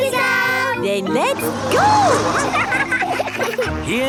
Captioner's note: laughing